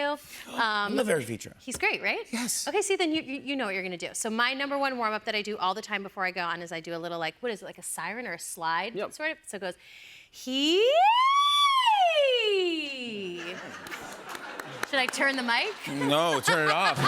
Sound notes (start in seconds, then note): 10.2 escalating pitch vocalization